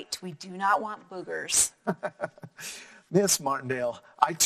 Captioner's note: laughing